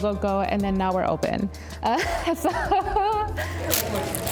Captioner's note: laughs